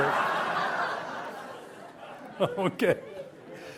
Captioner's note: audience laughs